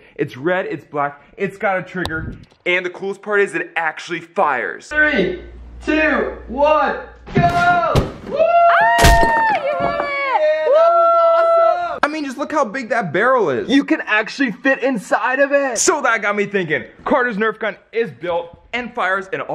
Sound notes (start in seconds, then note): 8.3 cheering